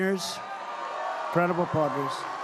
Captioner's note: applause